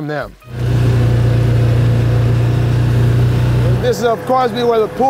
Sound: car engine roaring

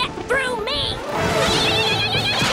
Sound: screeching

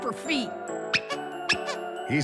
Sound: squeaking

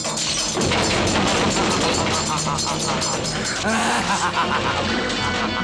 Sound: laughs

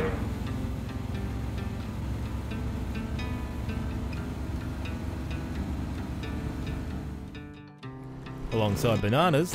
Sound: car engine

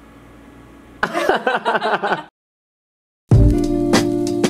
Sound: laughing; soft music

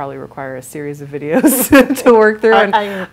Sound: laughs

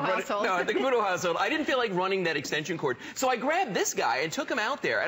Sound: laughter

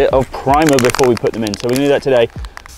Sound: spray can clicking

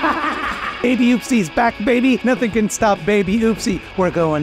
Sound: Mildred, laughing maniacally

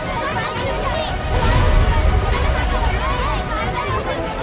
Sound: kids talking

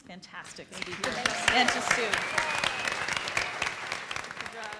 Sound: applauds

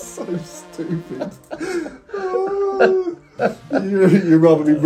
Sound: both laughing

